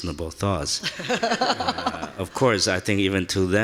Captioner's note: laughing